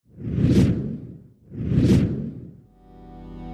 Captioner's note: logo rumbles